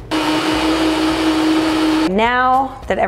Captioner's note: blender whirring